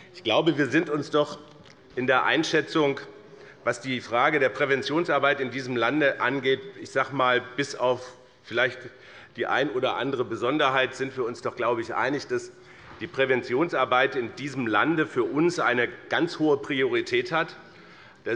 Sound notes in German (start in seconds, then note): none